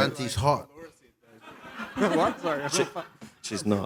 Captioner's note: laughter